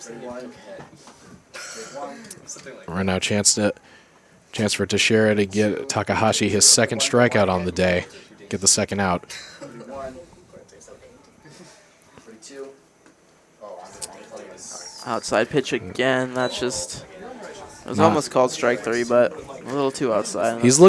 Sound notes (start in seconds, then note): 10.0 indistinct chatter